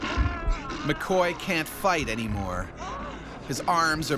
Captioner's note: bear growling; yelling; voiceover